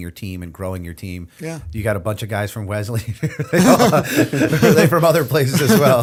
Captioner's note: chuckle